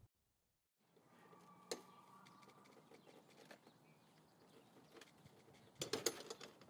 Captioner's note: sound of fence gate opening; gate latch clicks closed